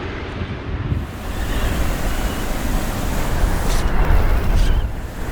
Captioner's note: wind rustling